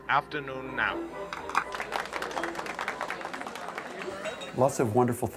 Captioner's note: sound of audience clapping